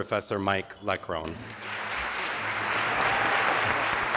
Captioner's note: applause